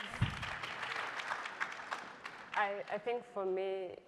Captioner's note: crowd applauding